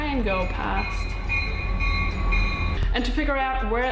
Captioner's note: train bell rings